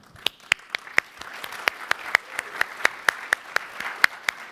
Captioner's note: applause